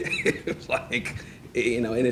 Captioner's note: laughing